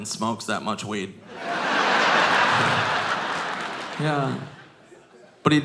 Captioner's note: audience laughing